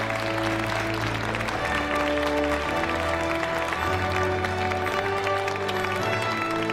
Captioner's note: audience applauding